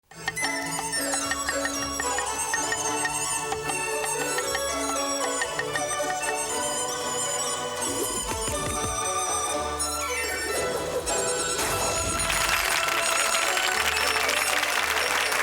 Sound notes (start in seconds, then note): 0.1 chopping; 0.1 joyful music; 11.3 ripping; 12.0 applause